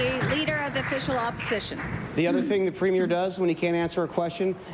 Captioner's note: applause